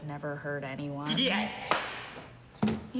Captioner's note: claps